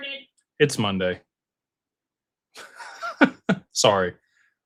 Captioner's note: laughter